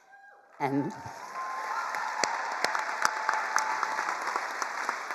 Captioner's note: all cheering and applauding